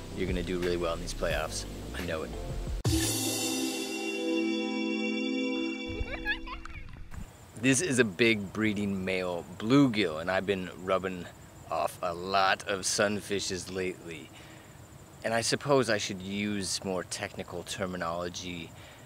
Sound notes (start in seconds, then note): 2.8 theme music; 5.9 classic girl giggle